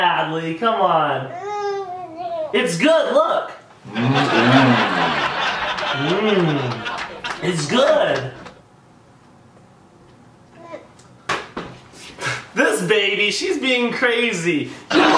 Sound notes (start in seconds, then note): 1.3 babbling; 3.8 audience laughing